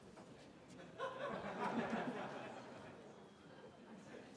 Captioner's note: laughter